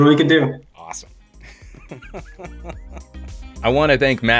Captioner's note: chuckles